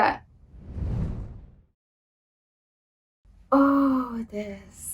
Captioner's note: air whooshing